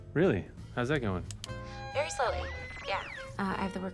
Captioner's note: machine whirs